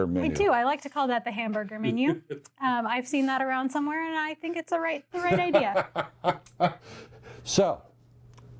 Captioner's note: laughs